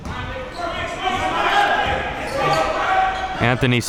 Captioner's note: coaches yelling